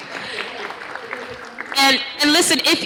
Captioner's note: applause